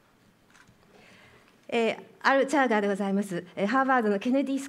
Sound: speaking japanese

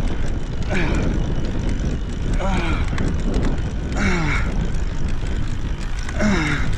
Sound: grunting

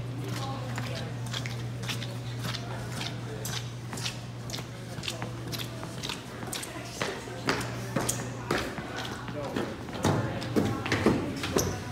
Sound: squeaky footsteps

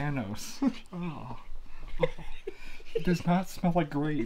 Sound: laughing

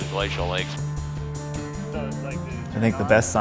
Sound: indistinct chatter

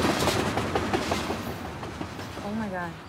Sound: train passing

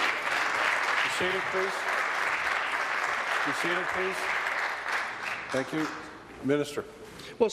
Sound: applause

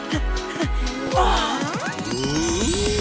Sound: all gasping; panting

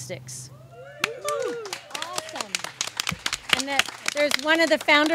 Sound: audience claps and cheers

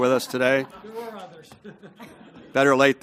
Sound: laugh

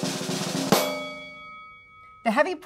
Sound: drum roll; bell dings

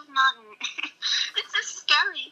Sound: chuckles

